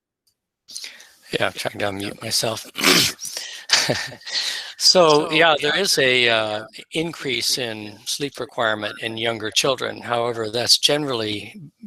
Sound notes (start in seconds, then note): 2.8 clears throat; 3.2 chuckles